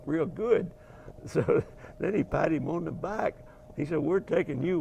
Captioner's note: laughing